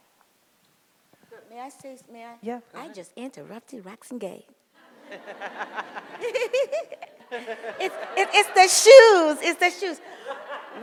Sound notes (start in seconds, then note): 4.9 audience laughs; 6.2 giggles